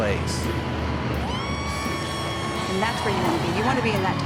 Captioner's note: people cheering